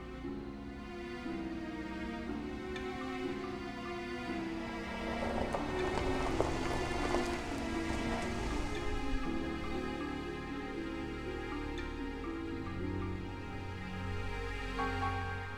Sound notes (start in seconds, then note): 2.3 car motor